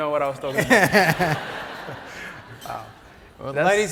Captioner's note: laugh